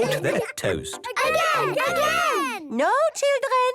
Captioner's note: children calling out